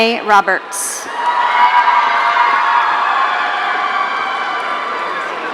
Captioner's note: audience cheering